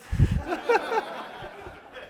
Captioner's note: laughter